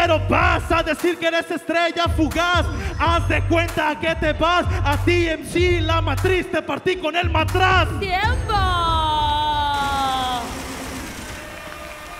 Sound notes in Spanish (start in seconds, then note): 9.7 Aplausos